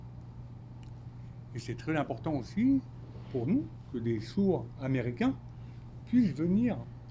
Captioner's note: speaking French